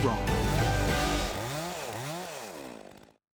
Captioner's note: saw buzzes